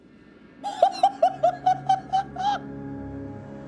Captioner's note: laughs at the new world of possibility